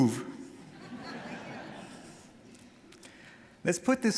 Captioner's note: audience laughing